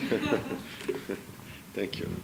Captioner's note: laughter